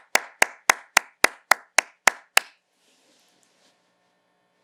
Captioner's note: applause